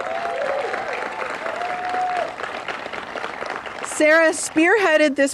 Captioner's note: applause